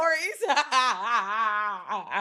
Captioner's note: laughing